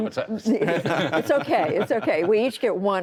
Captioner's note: laughter